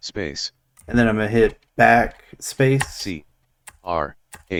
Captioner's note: screen reader spells out the path